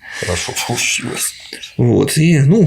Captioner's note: chuckles